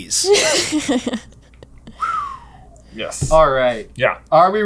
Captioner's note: laughter